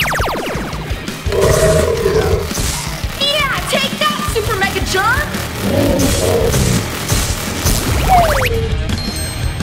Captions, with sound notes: (ray beam blazing) Yeah. Take that Super Mega-Germ! (germ deflating)